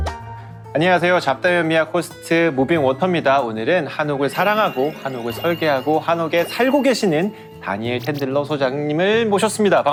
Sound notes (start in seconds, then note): 4.0 sparkling sound effect